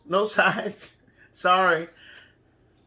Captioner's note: chuckles